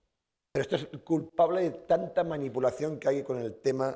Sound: speaking spanish

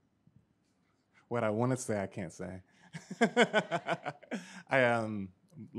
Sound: laughs

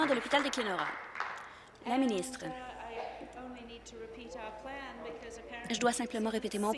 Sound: applause

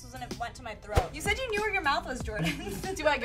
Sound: giggles

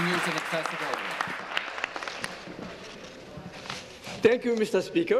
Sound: applause

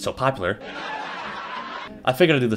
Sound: Seinfeld Laugh Track

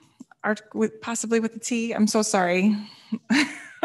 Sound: laughs

